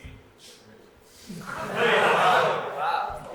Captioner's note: audience laughs